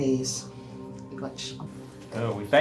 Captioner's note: non-english speech